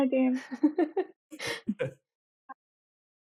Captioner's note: chuckling